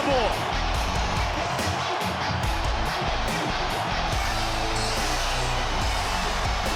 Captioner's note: crowd cheers; upbeat music